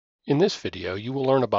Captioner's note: voiceover